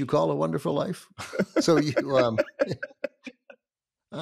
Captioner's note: laughs